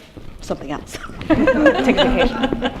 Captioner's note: laughter